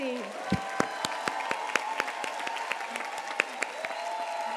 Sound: applause

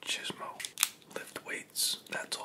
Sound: crack

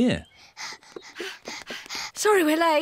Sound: panting

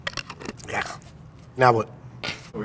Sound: groans

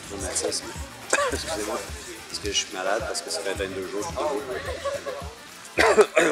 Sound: cough

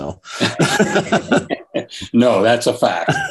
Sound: chuckle

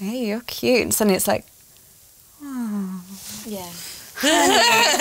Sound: laughs

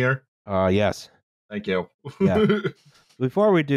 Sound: laughs

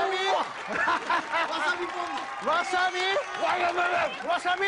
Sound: cheers and applause

